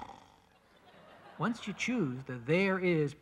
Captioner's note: snoring